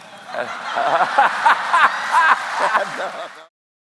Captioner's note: crowd laughing